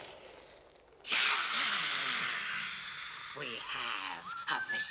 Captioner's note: wind howling; hissing